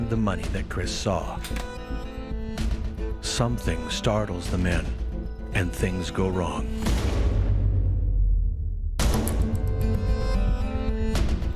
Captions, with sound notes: Something startles the men and things go wrong. (long gun fires) (dramatic music)